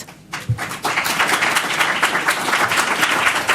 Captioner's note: applause